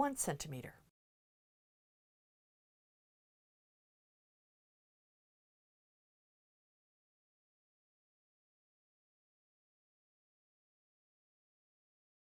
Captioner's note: no Sound Present